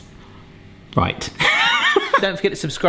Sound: chuckles

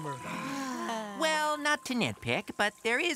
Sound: Stella, Chuck and Red sigh

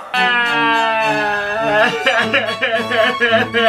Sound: sobbing

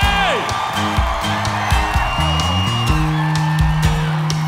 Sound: cheers

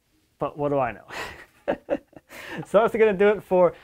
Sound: chuckles

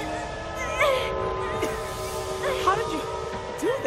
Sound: straining

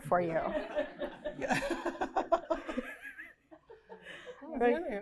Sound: laughter

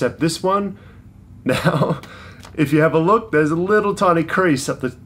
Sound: laughs

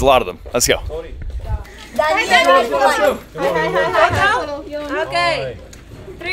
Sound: speaking Romanian

